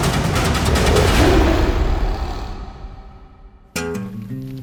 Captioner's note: animal growling